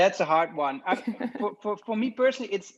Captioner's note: laughs